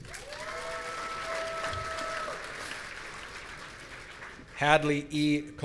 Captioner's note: audience cheering